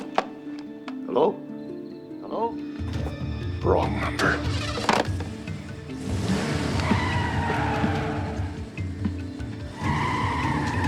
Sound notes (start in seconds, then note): 4.0 engine turns over; 6.6 engine revs, tires screech